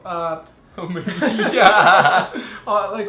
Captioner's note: laughing